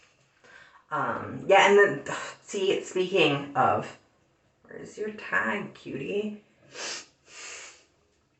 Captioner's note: sniffs